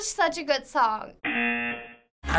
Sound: buzzer; singing along

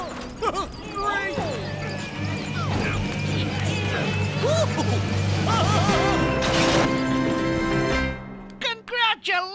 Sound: grunting

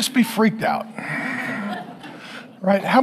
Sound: congregation laughing

